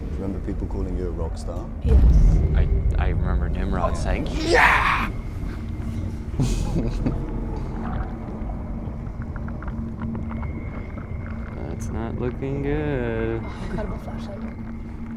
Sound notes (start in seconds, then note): 5.6 unsettling music; 5.6 water sloshing